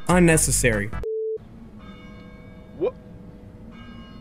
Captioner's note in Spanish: Peajes de campanas y sonidos de juegos